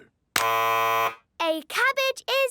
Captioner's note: buzzes